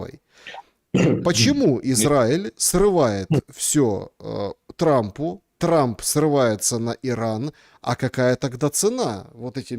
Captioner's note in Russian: откашливается